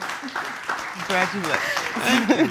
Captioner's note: chuckles